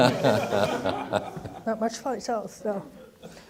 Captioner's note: laughing